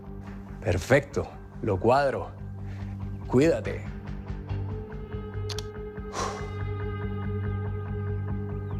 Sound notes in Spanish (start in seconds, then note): 6.0 Soplido